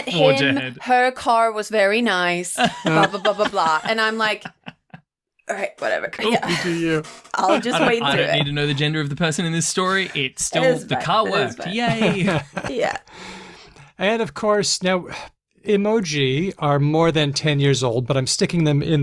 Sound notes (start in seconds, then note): 7.2 laughs; 12.9 laughs